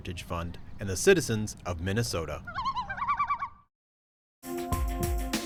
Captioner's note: loon calling